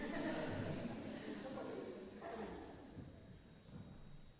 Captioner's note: laughter